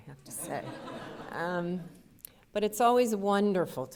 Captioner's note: audience laughter